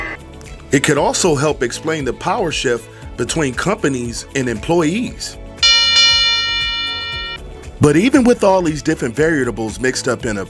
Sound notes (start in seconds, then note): 5.6 boxing bell rings